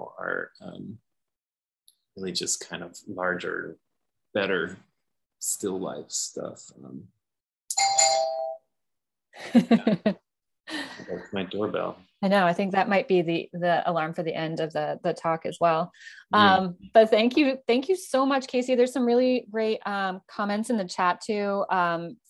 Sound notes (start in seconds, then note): 7.7 door bell chimes; 9.4 laughs